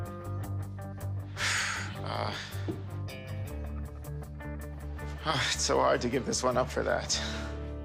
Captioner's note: sighs